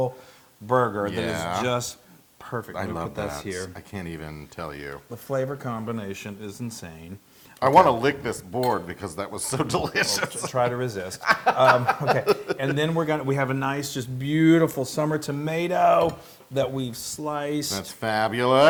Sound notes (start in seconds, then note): 9.5 laugh